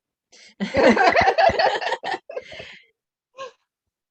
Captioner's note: laughter